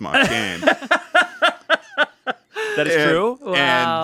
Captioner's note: laughs